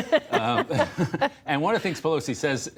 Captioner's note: laughter